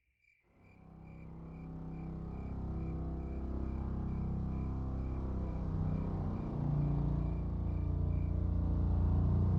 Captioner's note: crickets